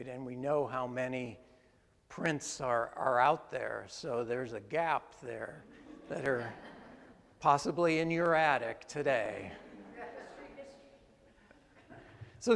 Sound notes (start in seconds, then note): 5.6 attendees laugh; 9.5 attendees laugh